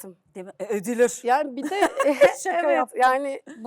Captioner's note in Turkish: kahkaha